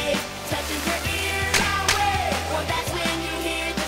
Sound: sound waves

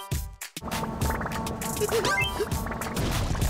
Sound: giggling

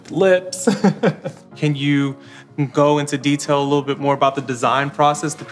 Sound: laughs

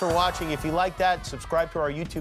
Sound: cheers and applause

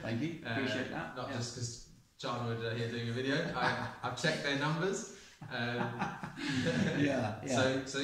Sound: laughs

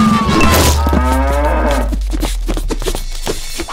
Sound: cow mooing

